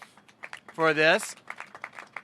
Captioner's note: applause